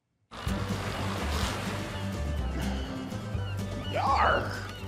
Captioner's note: Captain Cook snoring